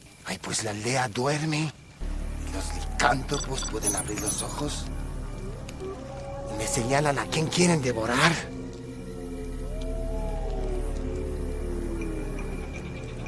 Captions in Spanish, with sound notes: -Pues la aldea duerme y los licántropos pueden abrir los ojos. Me señalan a quién quieren devorar. (Aullidos)